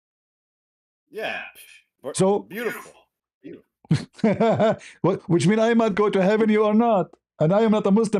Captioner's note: ketawa